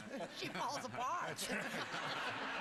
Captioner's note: audience laughter